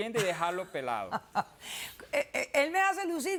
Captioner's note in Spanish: risas